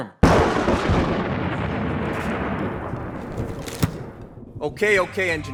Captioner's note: thunder